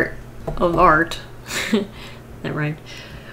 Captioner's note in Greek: Γέλια